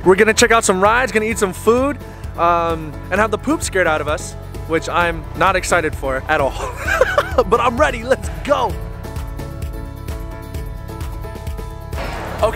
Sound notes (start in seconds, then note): 6.4 laughs; 9.0 inspirational music